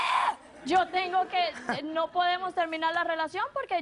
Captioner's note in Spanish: Risas